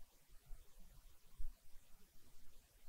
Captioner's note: none